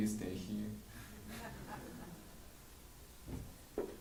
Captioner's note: chuckles